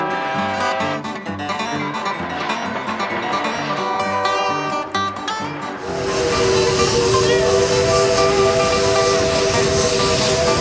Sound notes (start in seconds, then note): 0.5 whistle blowing